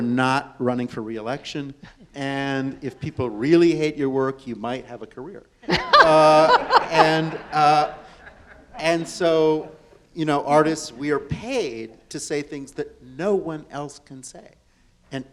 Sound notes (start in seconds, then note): 5.6 audience and panelists laugh